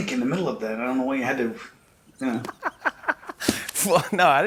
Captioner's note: laughs